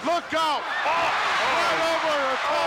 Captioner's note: crowd cheers